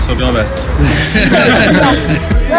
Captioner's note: laughter